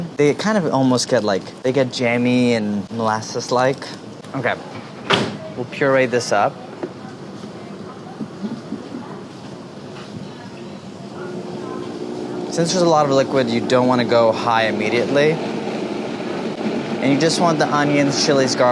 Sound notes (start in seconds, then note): 15.4 blender humming